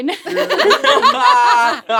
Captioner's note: all laughing